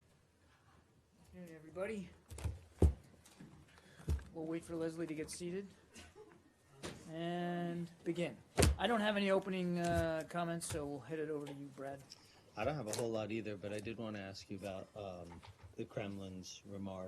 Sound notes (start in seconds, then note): 6.0 laughter